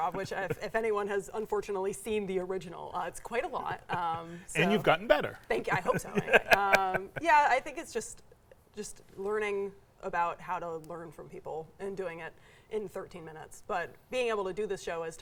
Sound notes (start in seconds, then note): 5.6 laughing